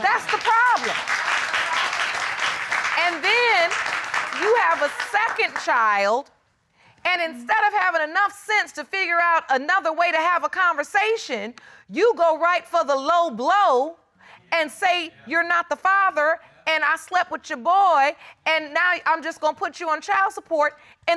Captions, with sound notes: That's the problem. [audience clapping] And then you have a second child, and instead of having enough sense to figure out another way to have a conversation, you go right for the low blow and say, "You're not the father, and I slept with your boy and now I'm just gonna put you on child support,"